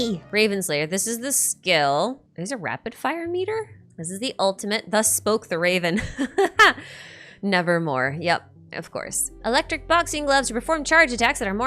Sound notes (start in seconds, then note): 6.4 laughs